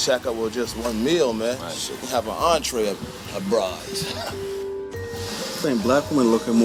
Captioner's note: chuckling